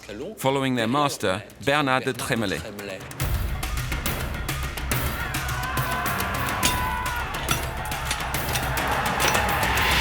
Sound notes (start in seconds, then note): 1.8 tense instrumental; 5.4 shouting